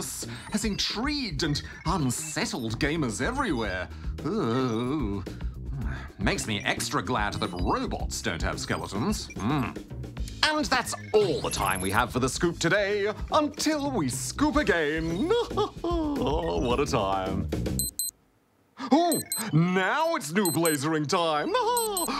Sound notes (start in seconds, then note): 15.1 chuckles; 19.1 alarm beeps; 21.5 laughs